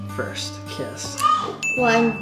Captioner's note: bell dings